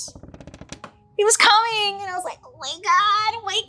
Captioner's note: wood creaking